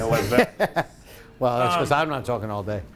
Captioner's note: laughing